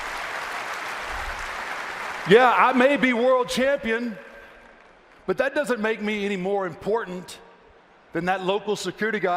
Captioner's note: applause